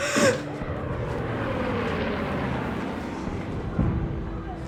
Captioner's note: plane whirs